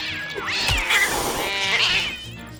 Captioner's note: cats meowing